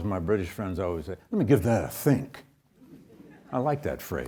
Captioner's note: audience chuckles